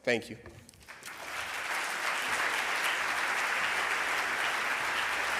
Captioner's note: audience clapping